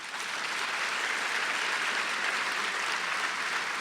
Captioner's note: audience applause